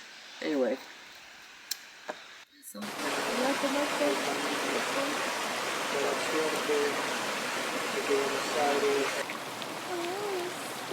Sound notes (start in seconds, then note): 1.5 water running